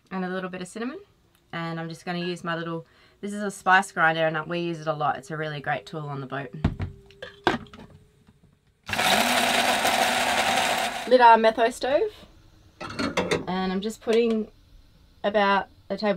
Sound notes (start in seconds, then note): 7.2 clunking; 8.9 grinding